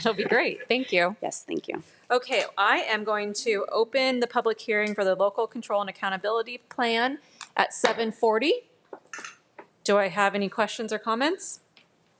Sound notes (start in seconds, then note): 8.5 gavel thuds